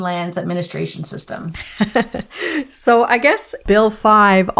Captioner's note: laughs